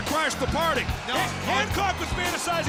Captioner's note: crowd cheering